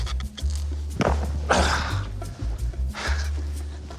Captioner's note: grunts